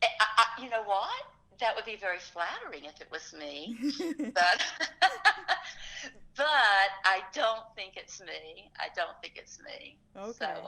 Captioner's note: laughs